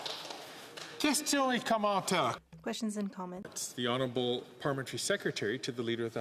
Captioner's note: applause; speaking French